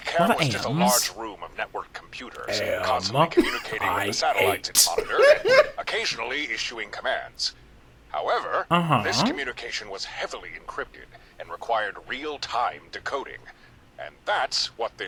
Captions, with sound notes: A lot of Ams. Am I hate? (laughing) Uh-huh.